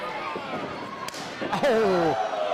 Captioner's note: slapping sounds